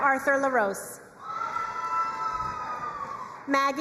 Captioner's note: crowd cheering and applauding